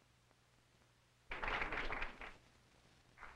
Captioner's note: applause